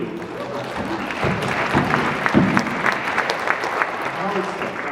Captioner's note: audience clapping